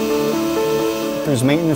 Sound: empowering music; machine buzzing

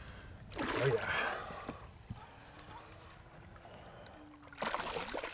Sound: fish splashing

